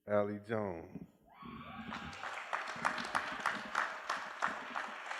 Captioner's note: cheering